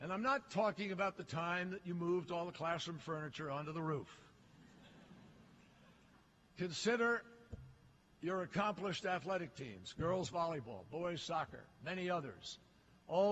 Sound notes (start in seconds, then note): 4.5 laughter